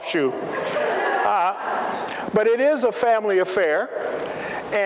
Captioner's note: laughter